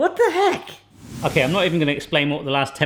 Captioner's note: air whooshing